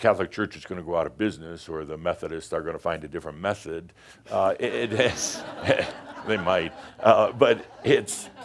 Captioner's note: laughter